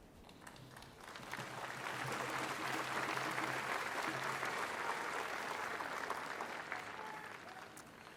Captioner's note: applause